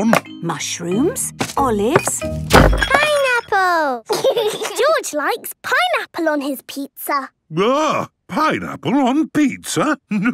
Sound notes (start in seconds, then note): 1.8 bangs; 4.1 laughs